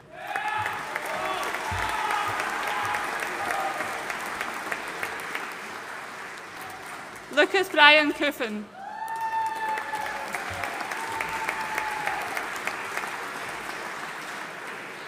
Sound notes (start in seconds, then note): 0.0 audience cheering and applauding